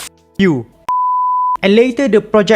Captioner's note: beep